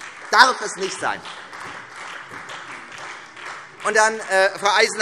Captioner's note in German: Beifall Freie Demokraten und SPD